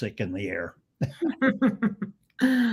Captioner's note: laughs